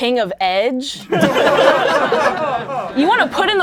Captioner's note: laughing